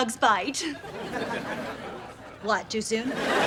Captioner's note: laughs